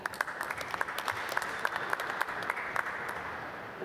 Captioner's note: applause